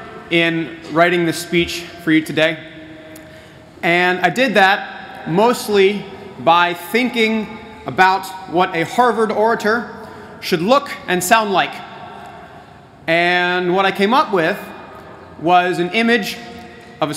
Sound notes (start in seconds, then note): none